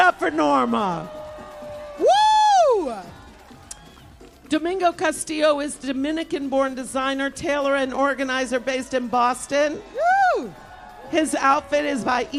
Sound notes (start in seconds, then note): 2.2 applause; 8.2 cheers and applause